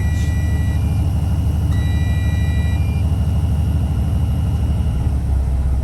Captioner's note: truck beeping